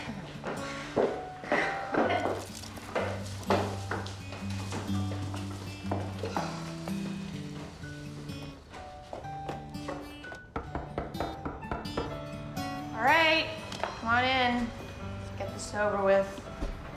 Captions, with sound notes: (sighs) All right, come on in. Let's get this over with.